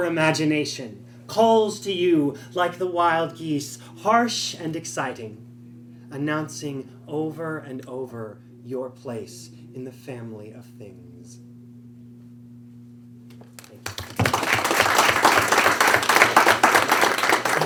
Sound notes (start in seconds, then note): 13.5 applause